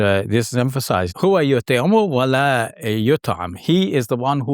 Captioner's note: speaking in foreign language